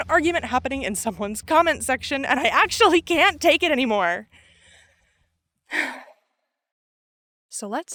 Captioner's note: sigh